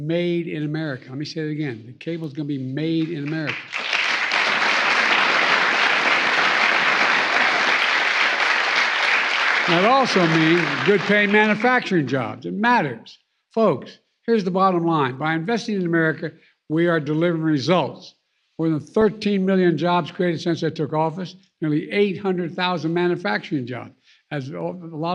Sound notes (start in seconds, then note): 14.3 applause